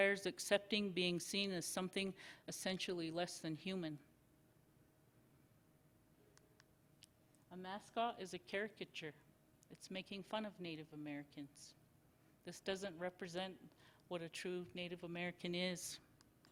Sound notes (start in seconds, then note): 4.2 silence; 16.2 silence